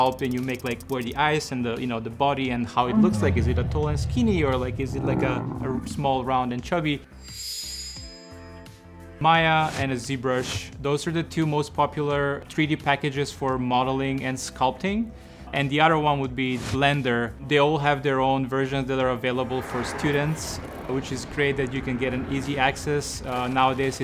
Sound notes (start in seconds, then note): 2.8 growls; 2.8 roars